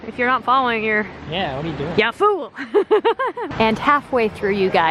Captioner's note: laughs